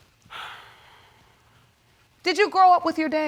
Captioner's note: sighs